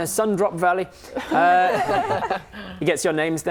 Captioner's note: laughing